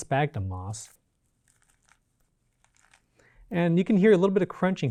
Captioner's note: plant crinkling